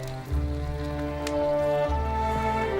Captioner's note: fire crackling